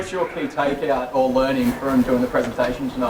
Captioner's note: voiceover